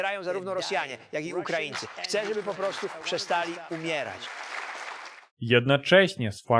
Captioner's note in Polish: aplauz